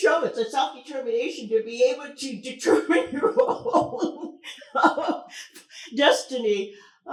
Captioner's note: laughs